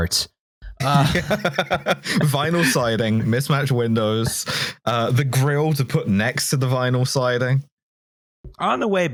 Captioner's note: laughs